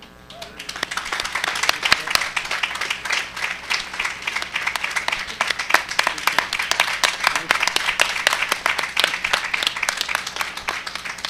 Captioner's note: applause